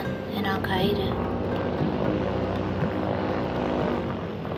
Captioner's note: drone whirring